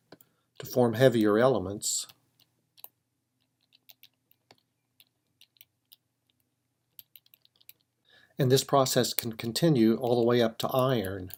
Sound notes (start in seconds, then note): 1.9 typing